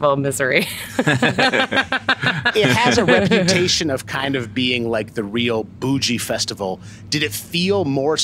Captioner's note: laughter